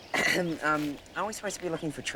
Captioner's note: clearing throat